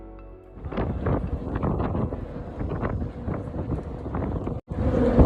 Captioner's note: sounds of ship sailing under bridge, which buzzes